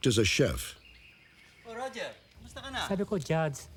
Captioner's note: non-english speech